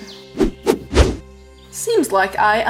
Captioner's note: swiping